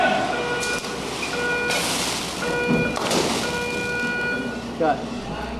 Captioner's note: explosions followed by beeps